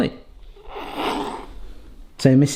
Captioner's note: giggles